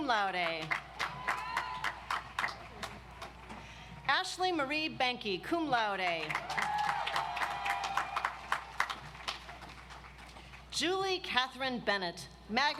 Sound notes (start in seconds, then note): 0.5 audience applauds; 6.2 audience applauds